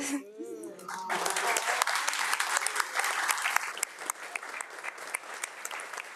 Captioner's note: audience applauding